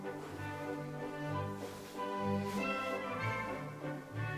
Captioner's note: fabric rustling